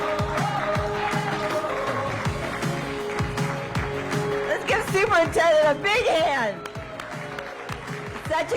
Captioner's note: applause